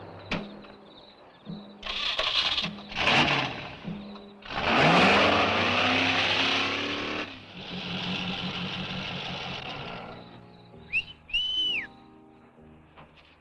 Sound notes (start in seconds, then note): 1.8 engine cranks; 1.8 engine rumbles; 10.0 whistles; 13.1 gentle music